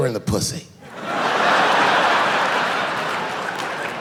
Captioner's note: laughing